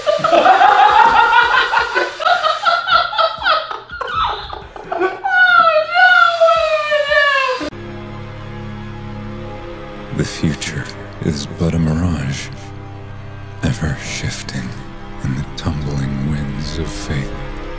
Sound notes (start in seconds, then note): 0.0 both break out into explosive laughter; 10.3 narrator voice